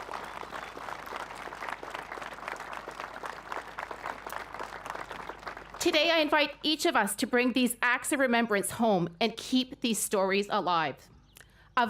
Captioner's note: applause